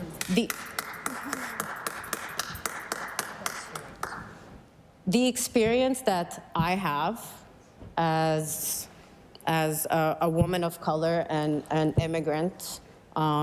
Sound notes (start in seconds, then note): 4.5 applause